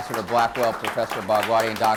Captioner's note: applause